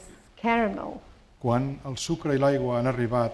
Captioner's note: speaking spanish